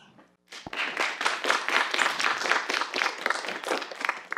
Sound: audience applauds

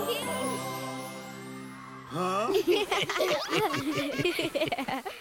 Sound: laughing

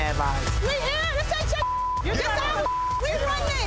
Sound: beep

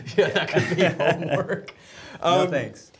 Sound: laughs

